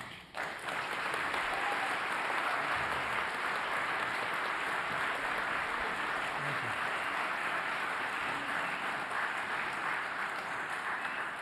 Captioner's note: applause